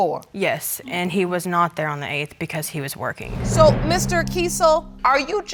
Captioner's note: none